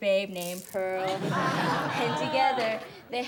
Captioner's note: class laughs